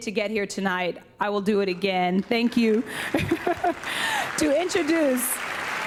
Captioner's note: laughs; audience applauding